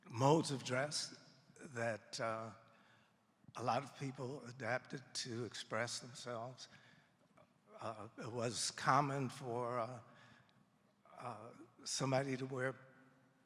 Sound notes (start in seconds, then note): none